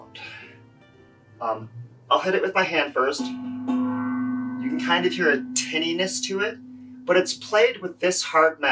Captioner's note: taps